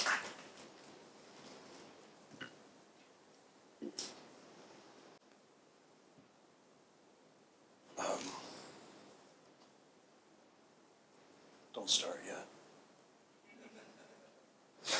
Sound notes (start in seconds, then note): 13.5 audience laughs